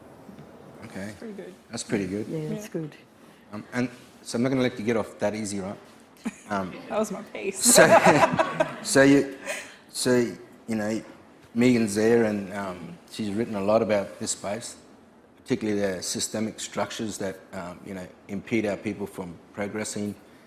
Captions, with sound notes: Okay. - Pretty good. - That's pretty good. - Yeah, that's good. - And so I'm not gonna let you get off that easy, right? - That was my pace. (laughing) - So you know Megan's there, and she's written a lot about this space, particularly the systemic structures that impede our people from progressing,